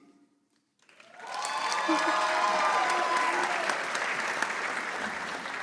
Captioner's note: audience applauding